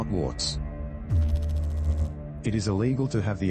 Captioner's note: electrical noise